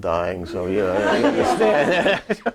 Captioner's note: audience laughing